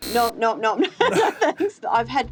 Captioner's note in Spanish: risas